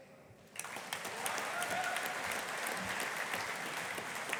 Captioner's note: audience applauding